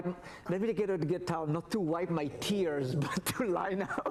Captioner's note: laughs